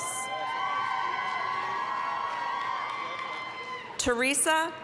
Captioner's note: applause, cheering